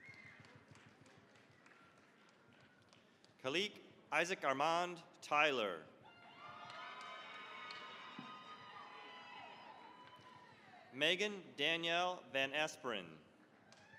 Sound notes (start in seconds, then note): 0.0 applause; 6.0 cheering, applause